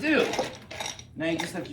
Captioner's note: clinking noise